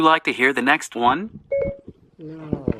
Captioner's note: beeping